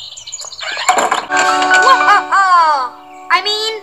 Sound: laughing evilly

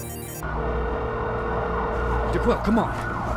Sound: sirens blaring

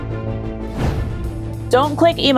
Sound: whoosing

